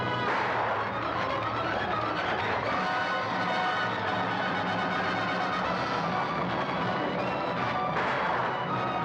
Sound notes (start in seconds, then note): 2.4 dramatic music; 2.4 hooves pounding; 7.9 gunshot